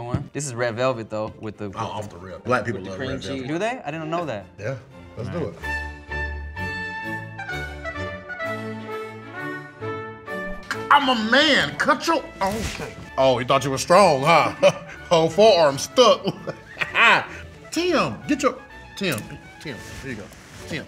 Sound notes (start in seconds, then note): 6.0 upbeat music; 16.2 laughs